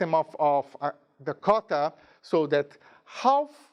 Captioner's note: speaking in a foreign language